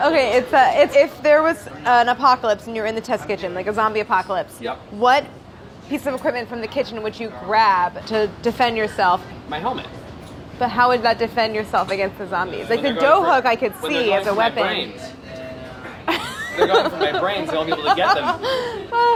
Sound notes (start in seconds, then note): 16.0 laughs